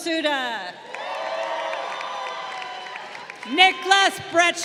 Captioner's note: crowd cheering